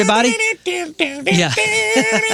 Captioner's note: imitating radio music